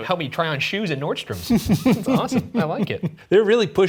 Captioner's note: Shane laughing